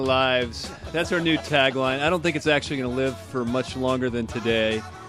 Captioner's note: laughs